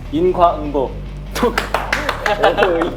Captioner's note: laughing